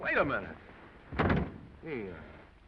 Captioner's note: door slams